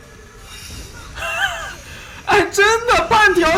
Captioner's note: hhhhhhhh